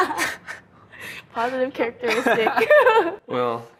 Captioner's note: laughing; laughing